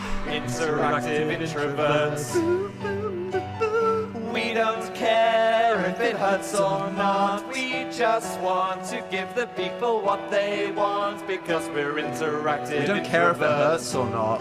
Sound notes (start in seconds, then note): 2.4 imitating piano